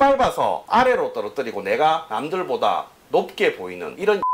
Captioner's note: beep